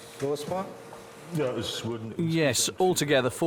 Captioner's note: speaking German